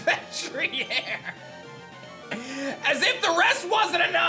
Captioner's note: laughs